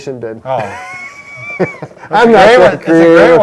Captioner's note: laughs